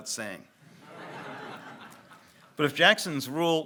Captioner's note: audience laughs